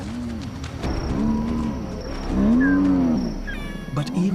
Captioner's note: growling